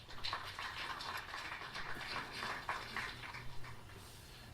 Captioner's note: crowd clapping